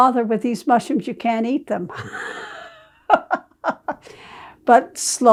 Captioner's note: laughing